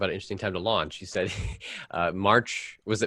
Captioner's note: laughs